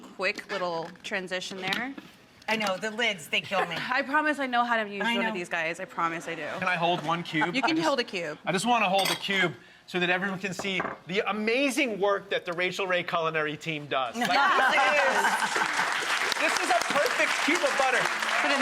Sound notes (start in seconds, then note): 14.2 laughter and applause